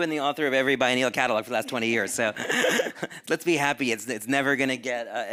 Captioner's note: chuckles